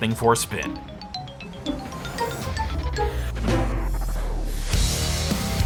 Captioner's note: GameCube startup sound, xylophone; upbeat rock music